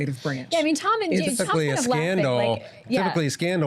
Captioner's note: overlapping chatter